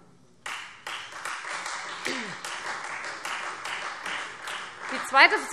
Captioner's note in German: Beifall Freie Demokraten